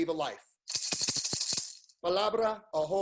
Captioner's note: rattles; speaks in foreign language